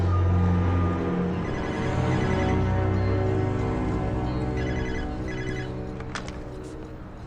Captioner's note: phone rings